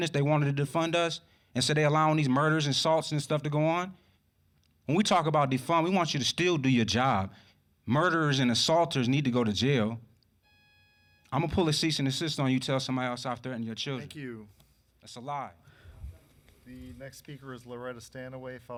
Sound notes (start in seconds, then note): 10.4 alarm buzzing